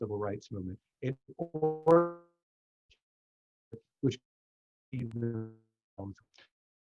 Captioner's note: distortion